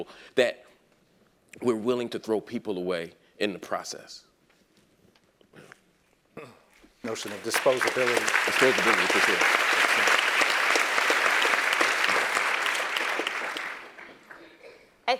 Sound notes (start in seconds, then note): 6.3 applause; 6.3 cough